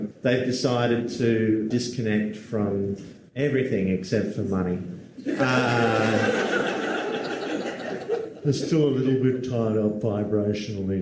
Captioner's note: crowd laughts